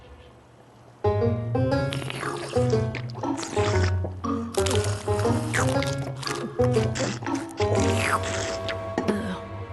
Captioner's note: slurping